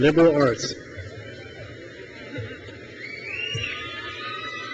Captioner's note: crowd cheers